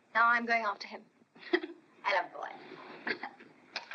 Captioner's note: laughs